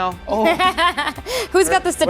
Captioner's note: laughs